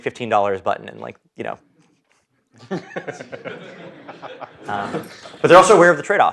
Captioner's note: laugh